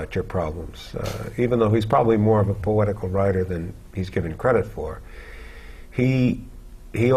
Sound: chuckle

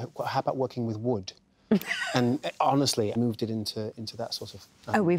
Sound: laughs

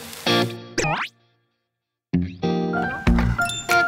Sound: peep

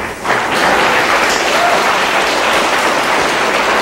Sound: audience applause

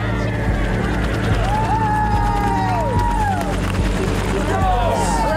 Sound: cheering

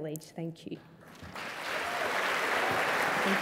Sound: applause

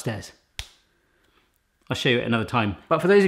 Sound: head slapping sound

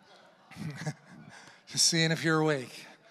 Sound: congregation laughing

